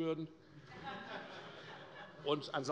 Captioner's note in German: Allgemeine Heiterkeit